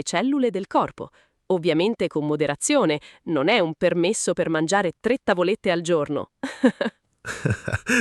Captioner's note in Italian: risate